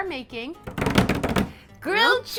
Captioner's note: tapping